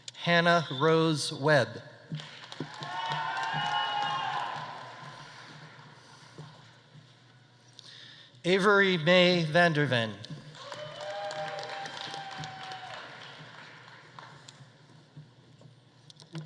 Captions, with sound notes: Hannah Rose Webb. (audience applauding) (audience cheering) Avery Mae Vander Ven. (audience applauding) (audience cheering)